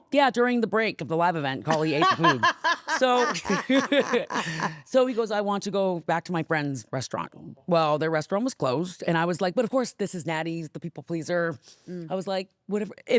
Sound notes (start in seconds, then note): 1.7 laughing